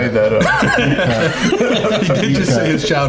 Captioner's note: all laughing